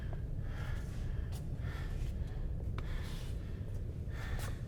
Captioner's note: heavy breathing continues